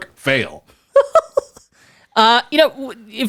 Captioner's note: laughs